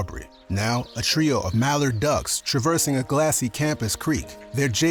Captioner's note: birds chirping, ducks quacking